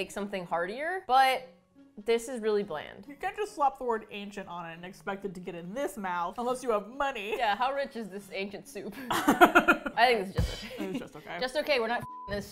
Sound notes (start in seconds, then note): 8.9 both laugh; 12.4 laughing